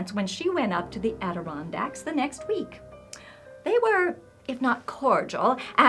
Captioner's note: none